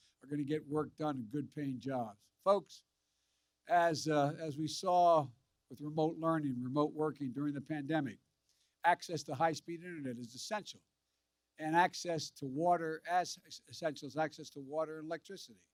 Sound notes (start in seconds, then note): none